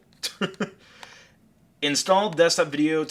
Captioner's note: laughing